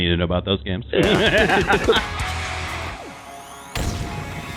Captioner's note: laughing; rock music